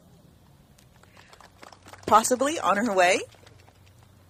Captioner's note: clapping